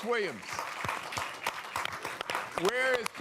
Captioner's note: applause